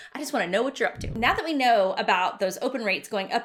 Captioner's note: swishing